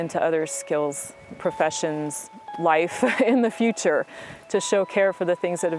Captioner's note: laughs